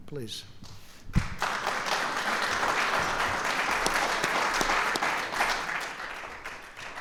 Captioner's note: applause